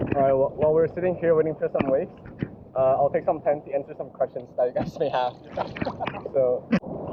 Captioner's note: haha